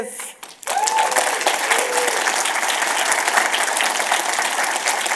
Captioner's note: audience cheers and applause